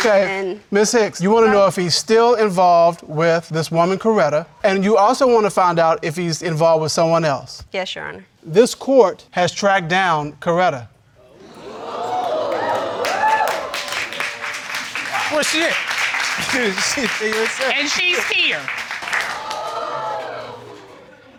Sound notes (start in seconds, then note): 11.2 audience gasps; 12.9 applause and cheers; 18.8 audience exclaims